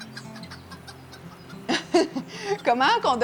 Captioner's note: laughing